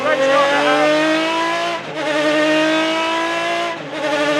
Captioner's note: engine roaring